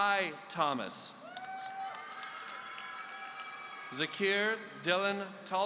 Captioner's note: audience cheering